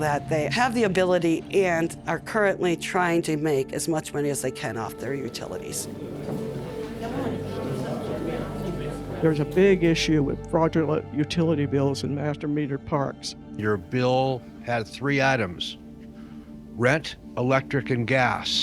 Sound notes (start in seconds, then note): 5.1 low chatter